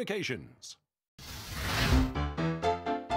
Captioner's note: flames sizzling; piano playing